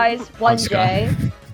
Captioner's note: laughs